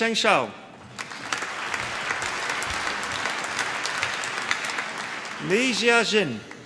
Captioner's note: applause